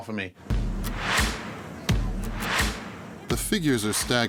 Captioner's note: upbeat music; chattering